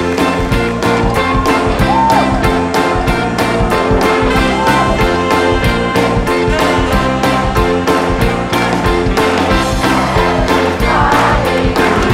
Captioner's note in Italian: Applauso